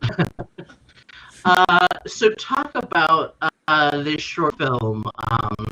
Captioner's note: chuckles